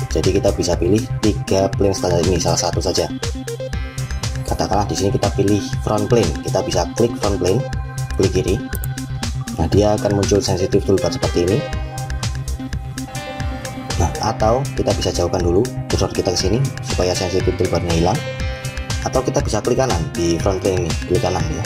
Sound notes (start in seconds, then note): 8.7 left click